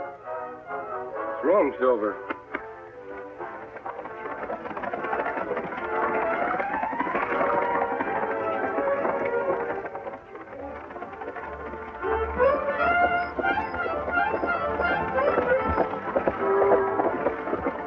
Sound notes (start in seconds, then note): 7.0 galloping; 11.7 suspenseful music